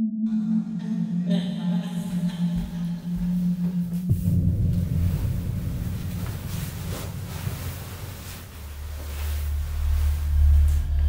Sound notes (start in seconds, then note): 4.8 sheets and bedding rustling